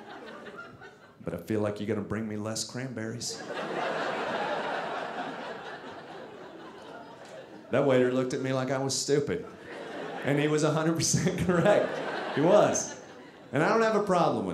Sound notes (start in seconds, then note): 3.4 audience laughing